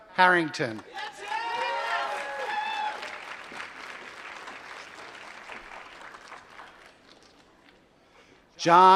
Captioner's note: applause